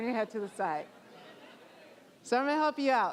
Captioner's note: audience laughing